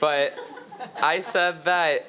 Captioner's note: attendees laughing